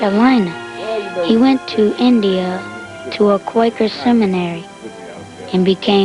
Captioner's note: chatter